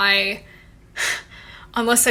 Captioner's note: scoffs